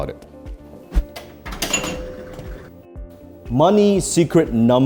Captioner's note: game pings